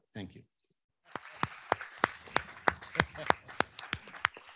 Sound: applause

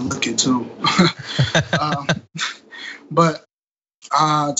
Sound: laugh

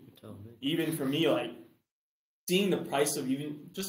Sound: laughs; chuckles

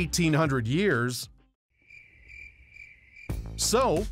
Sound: crickets chirping

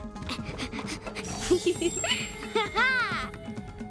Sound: chiming; giggling

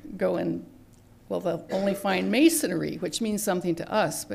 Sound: cough in background

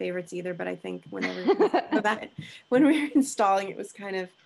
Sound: laughing

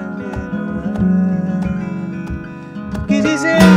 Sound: guitar music; humming melody

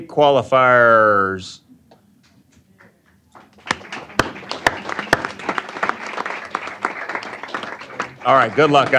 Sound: applause

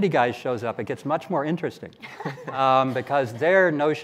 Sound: laughing

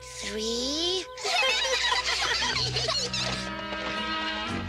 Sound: giggling

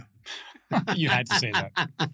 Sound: laughs

